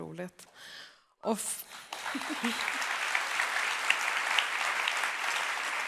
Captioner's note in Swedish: applåder